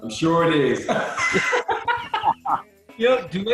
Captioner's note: laughing